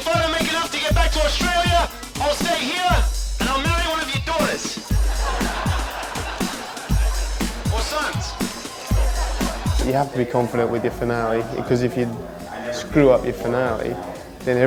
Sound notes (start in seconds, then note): 5.1 audience laughing